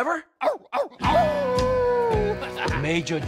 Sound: Trevor howling

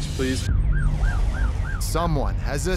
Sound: siren wailing

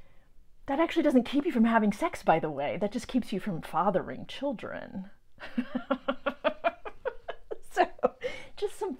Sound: hearty laugh

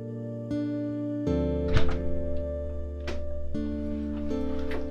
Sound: front door shuts and locks

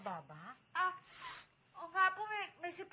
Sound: sniffles

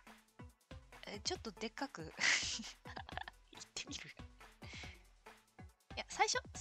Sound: laughs

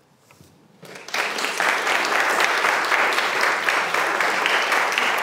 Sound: audience applauding

